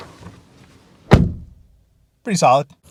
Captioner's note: slams door